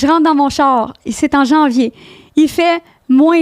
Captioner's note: in french